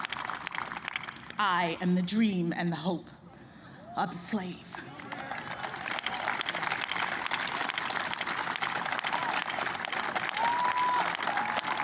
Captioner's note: applause